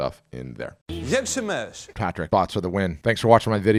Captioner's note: speaking foreign language